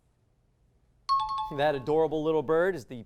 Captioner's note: high-pitched tones